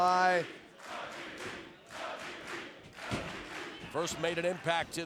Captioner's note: crowd chanting